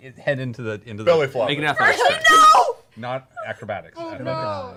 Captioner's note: shouting